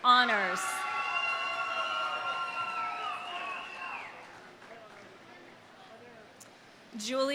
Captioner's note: audience cheering; audience applauding